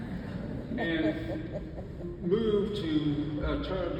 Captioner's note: audience laughs